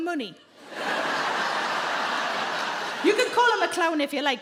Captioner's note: audience laughing